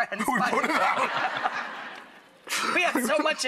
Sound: laughing

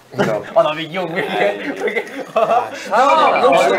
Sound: haha; burst out laughing

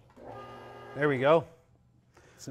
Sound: machine grinding

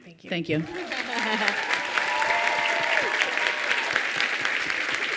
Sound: crowd cheering and applauding

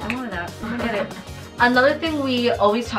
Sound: laughing

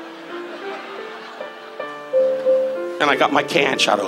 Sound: audience laughs

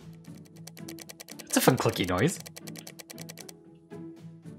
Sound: scroll bar clicking

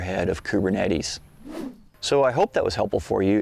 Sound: swishing sound

